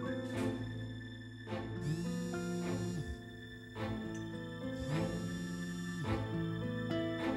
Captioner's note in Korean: 휴대전화 진동음